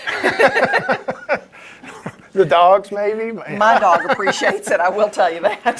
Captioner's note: laughs